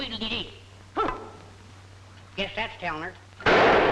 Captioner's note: grunts; gun bangs